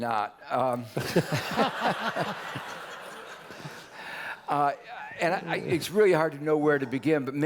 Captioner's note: laugh